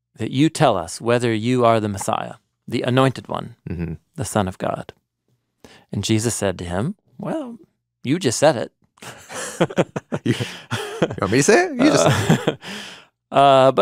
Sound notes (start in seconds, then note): 9.0 both laughing